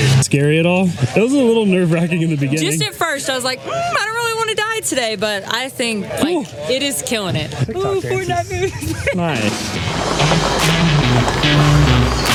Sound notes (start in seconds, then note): 7.8 laughs; 9.6 rock music